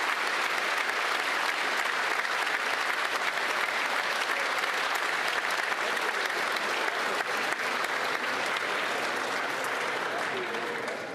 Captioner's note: applause